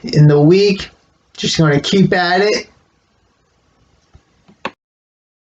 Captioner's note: click